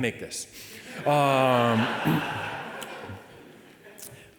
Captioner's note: audience laughing